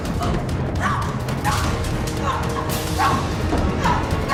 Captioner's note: Madeleine screaming